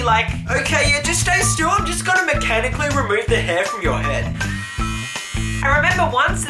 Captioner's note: buzzz